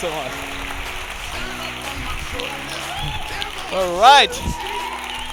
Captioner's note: audience cheering